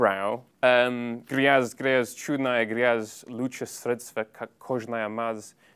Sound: in Russian

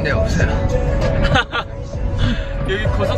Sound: haha

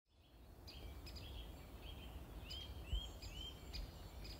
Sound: birds chirping

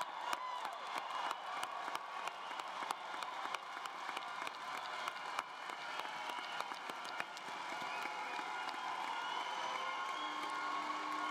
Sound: applause

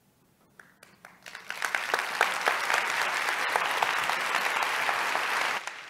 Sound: applause

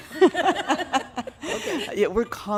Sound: laughing

